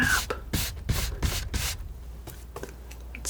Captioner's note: tapping